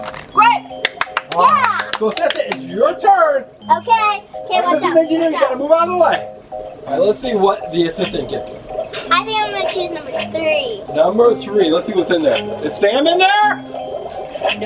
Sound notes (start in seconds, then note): 0.8 woman claps